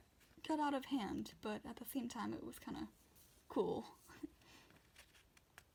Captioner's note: laughs